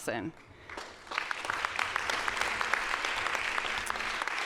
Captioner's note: audience applauds